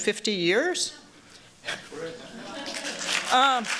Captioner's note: applause